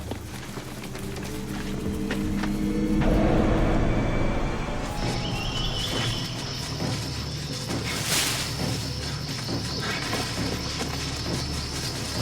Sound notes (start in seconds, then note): none